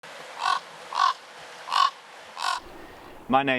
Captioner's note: bird sound